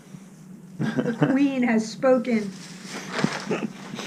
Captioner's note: laughs